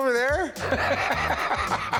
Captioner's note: Rick laughs